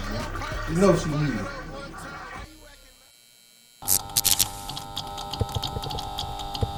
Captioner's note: electricity buzzes